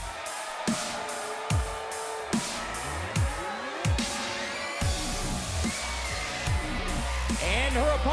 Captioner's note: crowd cheering